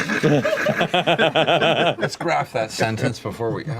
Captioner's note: laughter